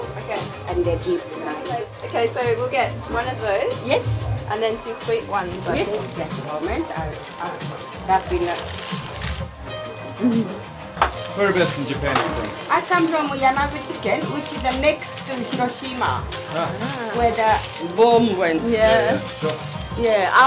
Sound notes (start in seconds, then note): 8.5 paper rattles; 13.3 in foreign language; 20.2 paper rattles